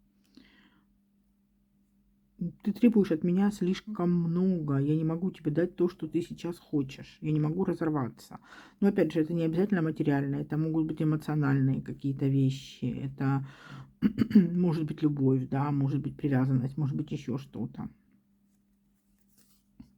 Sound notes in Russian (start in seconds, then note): 14.0 откашливается; 14.0 кашель